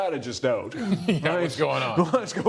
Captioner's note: laughter